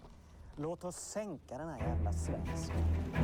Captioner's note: speaking Danish